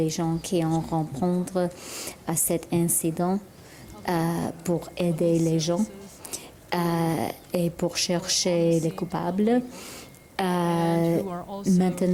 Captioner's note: speaking french